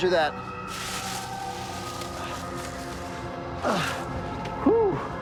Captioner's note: grunting